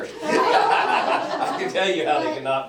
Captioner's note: laughter